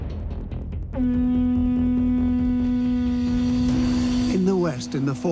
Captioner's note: horn rings out